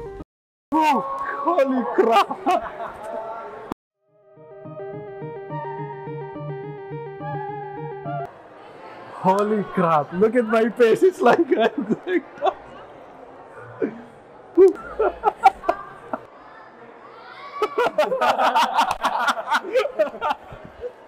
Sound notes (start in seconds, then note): 14.5 laughter; 17.5 combined laughs